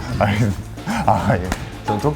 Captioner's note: slap